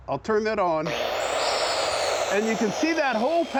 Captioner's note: cutter whirring